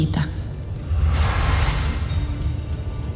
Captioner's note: ethereal whoosh; mystical music playing